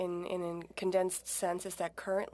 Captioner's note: speaking French